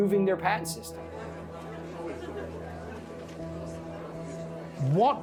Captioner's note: crowd noise